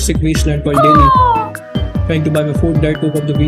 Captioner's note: eagle noises